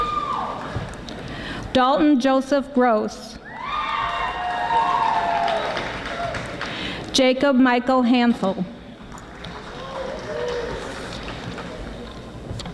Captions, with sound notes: Dalton Joseph Gross. (audience applauding) Jacob Michael Hansel.